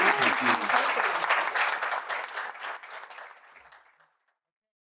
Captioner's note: applause